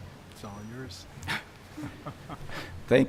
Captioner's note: chuckling